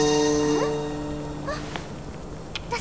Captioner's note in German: Überraschter Laut